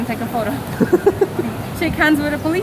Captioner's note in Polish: dziewczęcy chichot